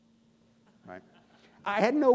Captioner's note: audience laughing